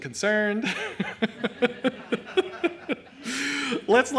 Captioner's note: laughs